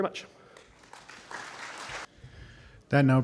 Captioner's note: applause